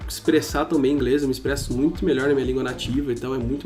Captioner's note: brazilian portuguese